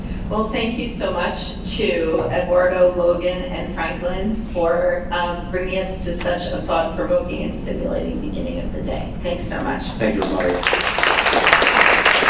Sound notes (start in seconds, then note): 9.9 applause